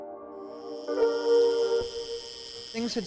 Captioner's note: tattoo gun buzzes